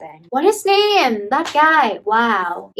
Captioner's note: loud slapping